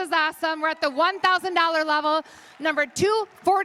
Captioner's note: applause